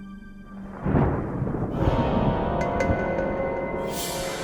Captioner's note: thunder rumbles